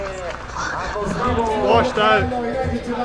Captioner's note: whistle chirping; loudspeaker announcing